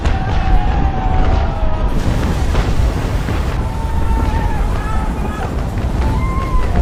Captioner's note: explosions booming; soldiers shouting